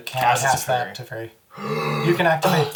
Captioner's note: big gasp